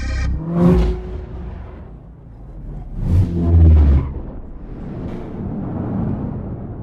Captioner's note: upbeat music continues; transition whooshes; vehicle revs